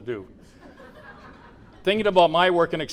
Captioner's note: laughter